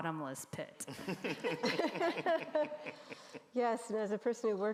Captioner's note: group laughing